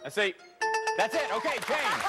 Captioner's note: bell rings